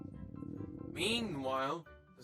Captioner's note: stomach Rumble